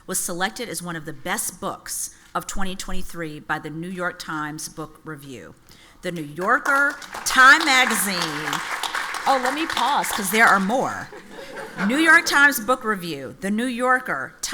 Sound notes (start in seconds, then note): 8.3 audience applauds; 12.0 audience laughs